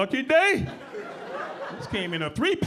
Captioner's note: audience laughing